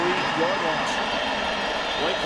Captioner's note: crowd cheering